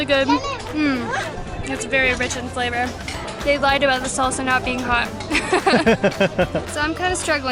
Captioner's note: laughter